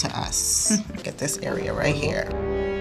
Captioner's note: giggling; dramatic music